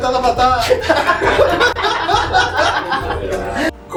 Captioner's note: laughs